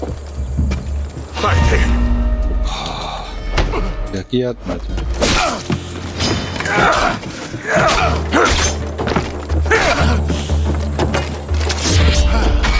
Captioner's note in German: schreien